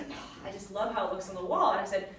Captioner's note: sighs